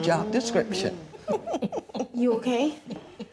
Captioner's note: laughing